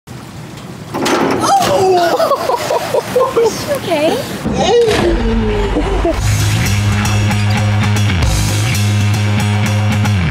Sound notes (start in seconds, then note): 1.4 water splashing; 1.4 laughing; 6.0 edgy guitar music